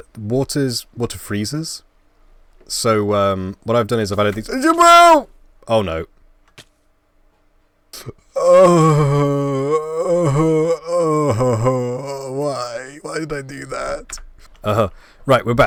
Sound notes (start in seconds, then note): 4.4 panic Sounds; 8.3 crying